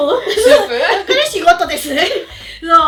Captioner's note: laughs